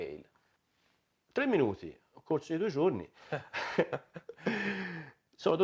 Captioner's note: laughter